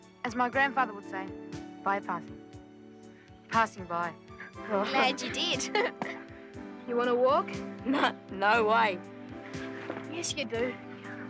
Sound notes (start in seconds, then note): 4.4 giggles